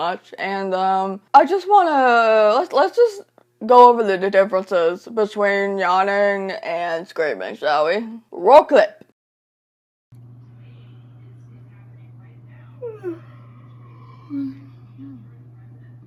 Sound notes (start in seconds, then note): 12.8 yawns